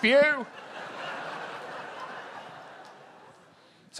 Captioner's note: laughter